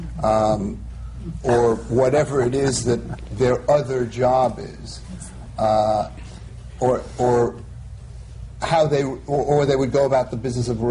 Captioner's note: laughter